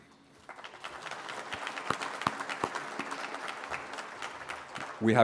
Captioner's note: applause